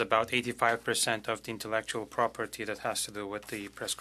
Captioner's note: speaking French